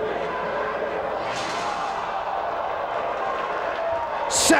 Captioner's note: spectators exclaiming; table crashing; spectators applauding